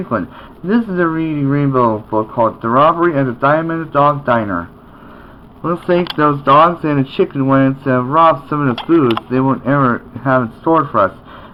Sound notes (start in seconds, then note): none